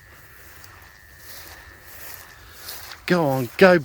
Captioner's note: footsteps sloshing